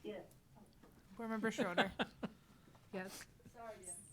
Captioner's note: laughs